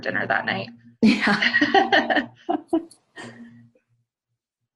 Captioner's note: laughter